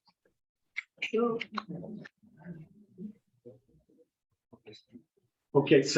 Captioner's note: members chattering